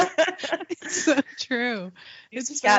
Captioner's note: both laughing